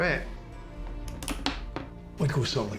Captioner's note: gun clicking